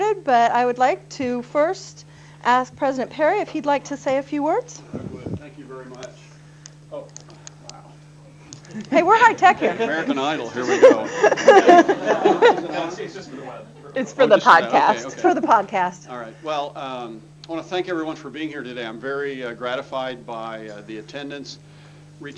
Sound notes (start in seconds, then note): 11.2 laughter